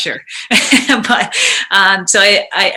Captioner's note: chuckles